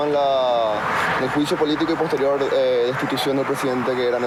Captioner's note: speaking In Foreign Language